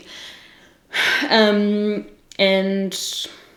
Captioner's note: sighs